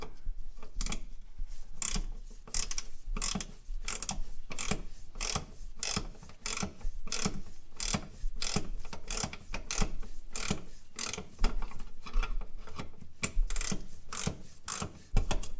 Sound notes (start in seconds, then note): 0.6 ratcheting sound